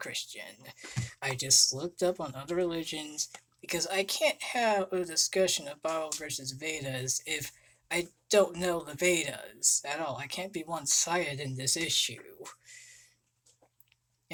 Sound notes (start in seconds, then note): 12.2 conversation